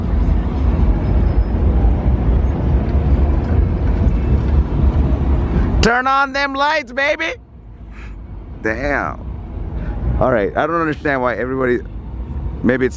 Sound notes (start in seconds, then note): 6.0 shouting; 8.8 in normal voice